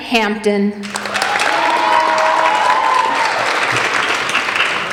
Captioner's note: applauding